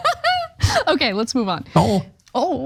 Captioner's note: laugh